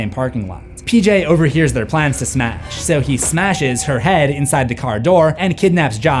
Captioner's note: smashes